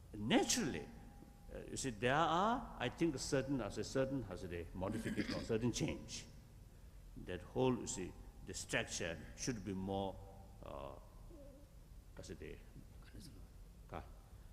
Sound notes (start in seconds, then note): 11.6 foreign words